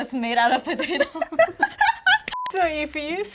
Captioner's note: laughs